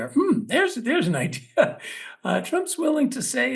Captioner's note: laugh